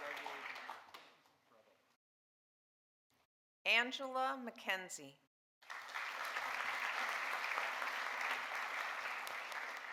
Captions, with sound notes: - Congratulations, Leif. Bravo. - Angela McKenzie. (audience applauding)